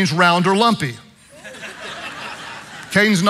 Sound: congregation laughing

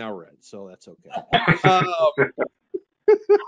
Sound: laughs

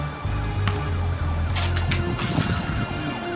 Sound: sirens

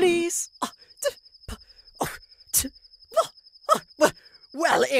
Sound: DICK scoffs and stammers in disbelief

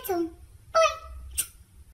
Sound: smooch

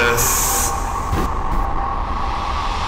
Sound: thump

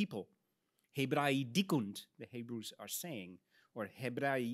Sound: speaks in Latin

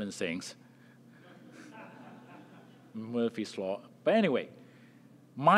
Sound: laugh

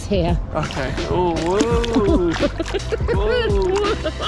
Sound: water sloshing; giggling

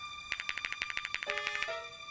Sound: spray can rattling

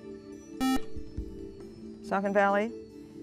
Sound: buzzer

